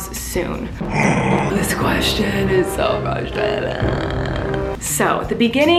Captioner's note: groans